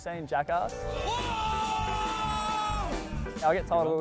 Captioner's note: Danger screaming